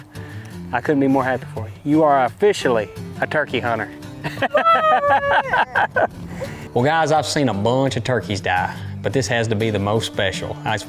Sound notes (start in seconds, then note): 4.2 laughs